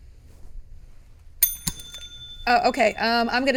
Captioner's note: bell ringing